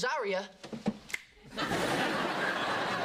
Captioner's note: snap